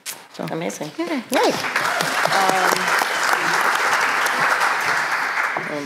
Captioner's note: applause